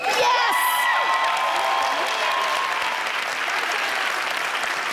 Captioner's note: audience clapping